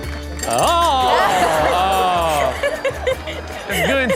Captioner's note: cup clattering